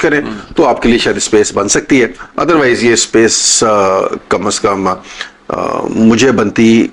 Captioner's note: clears his throat